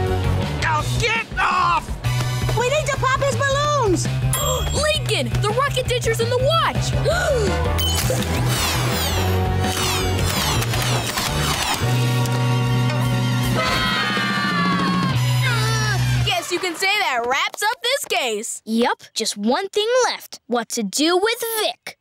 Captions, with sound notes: Oh, get off! We need to pop his balloons! [gasping] Lincoln, the rocket dentures in the watch! [gasping] [screaming] Guess you can say that wraps up this case. Yep. Just one thing left, what to do with Vic.